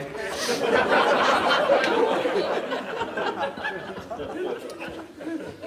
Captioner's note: audience laughing